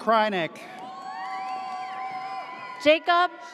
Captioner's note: audience cheers